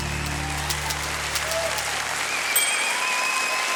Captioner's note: cheering and applause